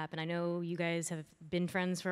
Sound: none

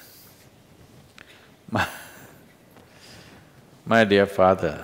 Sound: laughs

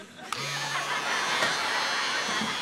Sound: razor buzzes

